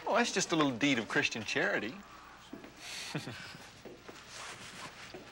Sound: laughs

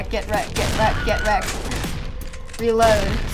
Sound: Wilhelm scream

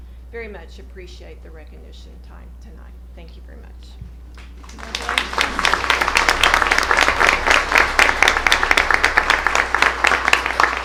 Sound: applause

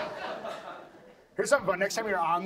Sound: audience laughs

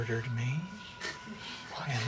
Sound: laughing

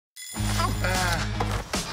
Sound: alarm rings

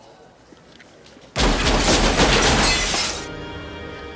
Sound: gunshots

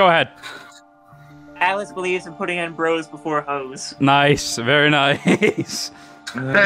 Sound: chuckle

